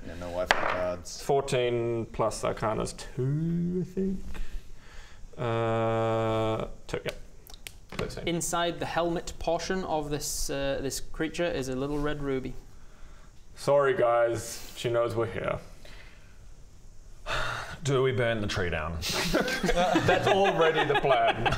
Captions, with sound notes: no wifi cards 14 + arcana's 2 I think? errrrrrrrr 2 yep Inside the helmet portion of this creature is a little red ruby Sorry guys she knows we're here *SIGH* Do we burn the tree down? *laughs in pyromaniac* That's already the plan!